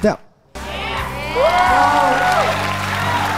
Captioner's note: cheering